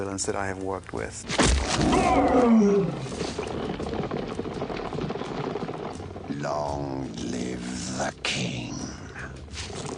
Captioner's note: Mufasa roars with pain